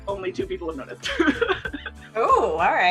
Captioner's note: laughs